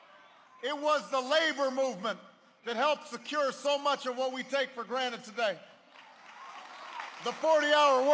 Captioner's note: applause